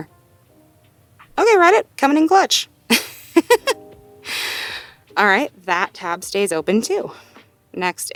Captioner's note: laughs